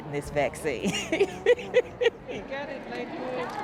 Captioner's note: laughs